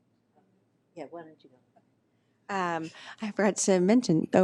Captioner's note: talks quietly